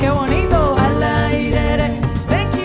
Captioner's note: cuban music; speaking in Spanish